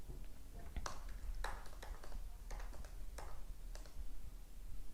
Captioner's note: keyboard clacks